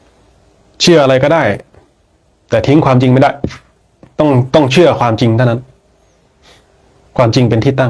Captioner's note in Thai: เสียงสูดหายใจ